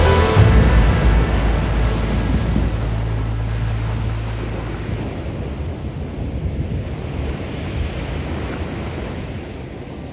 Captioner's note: water rushing through the opening